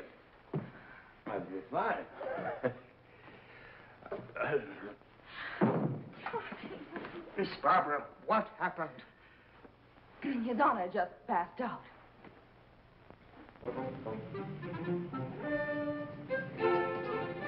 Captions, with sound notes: I feel fine. (chuckles) - Miss Barbara, what happened? - His Honor just passed out. (peppy orchestral music)